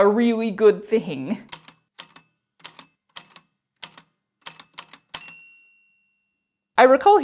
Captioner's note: A typewriter clicks away, then dings